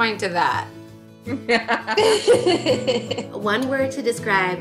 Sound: laughing

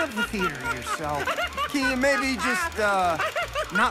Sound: laughing hysterically

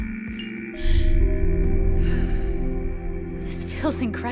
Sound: bells dinging; loud groaning in background; heavy sighing

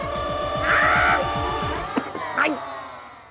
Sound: shrieks

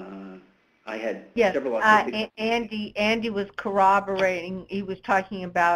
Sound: voiceover

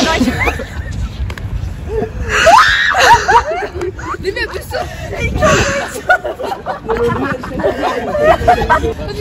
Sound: not so suppressed laughter

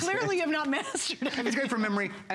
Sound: laughter

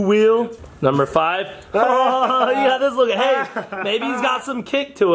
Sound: laughing

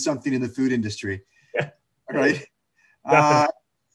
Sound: laughs

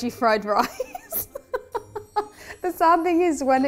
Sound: laughing

